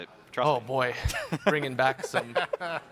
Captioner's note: chuckling